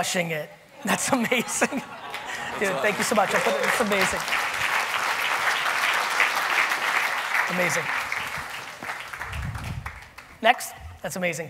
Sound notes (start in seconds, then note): 4.6 audience applauding